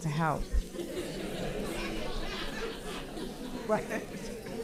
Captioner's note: audience laughing